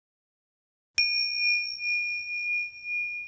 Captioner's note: ringing sound